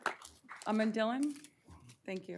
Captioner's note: applause